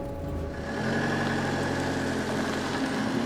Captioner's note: motor revving